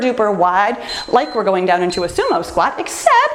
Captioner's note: timer beeps